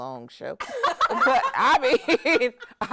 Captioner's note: hosts laughing